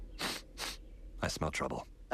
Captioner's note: sniffing